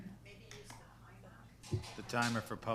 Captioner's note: people murmuring